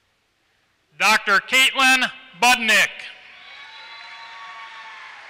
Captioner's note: applause